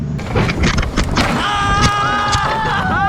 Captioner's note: wood smashing; big screams and cheers